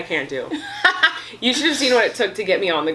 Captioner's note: laughs